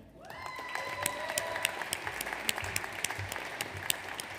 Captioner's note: audience applauds